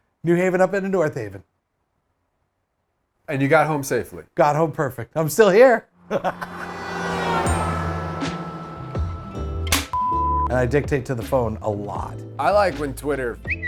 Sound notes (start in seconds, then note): 5.9 car driving; 6.1 chuckles; 9.6 clapperboard shutting; 9.9 beep